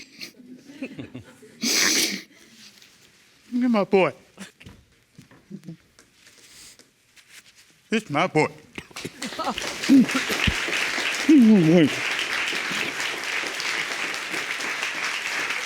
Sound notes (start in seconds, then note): 0.5 audience laughing; 1.6 sniffling